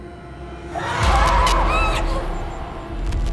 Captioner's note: creature screaming; Kira squeals; tense music